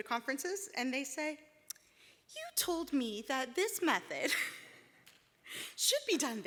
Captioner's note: laughs